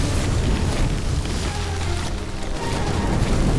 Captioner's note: fire crackles; action music